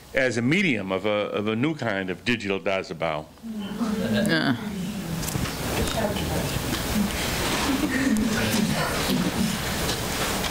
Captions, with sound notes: as a medium of a new kind of digital dazibao? (audience chatter)